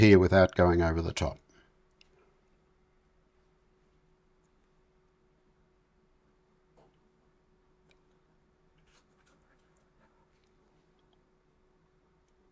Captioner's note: silence